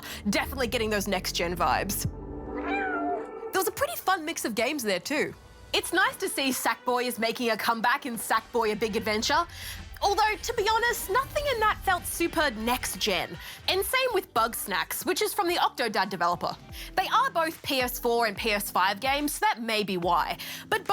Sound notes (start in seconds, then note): 2.6 miaows